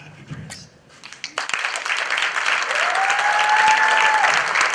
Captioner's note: applause